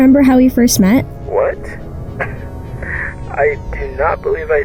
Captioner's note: chuckles